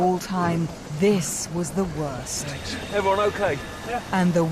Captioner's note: Mosasaur fin splashing